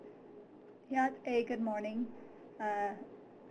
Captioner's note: speaks in foreign language